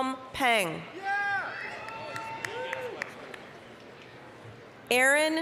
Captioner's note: applause, cheering